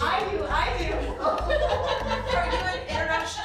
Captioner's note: laughing